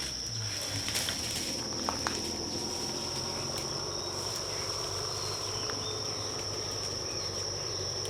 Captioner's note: humming of bus